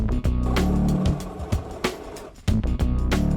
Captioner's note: upbeat music; grinding